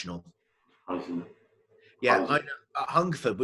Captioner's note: murmurs